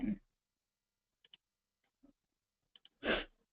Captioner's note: pause